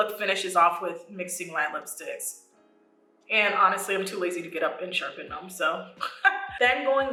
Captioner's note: laughs